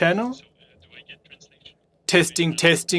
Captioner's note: speaking French